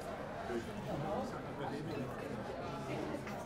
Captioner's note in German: Stimmengewirr